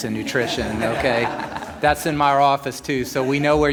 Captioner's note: laughter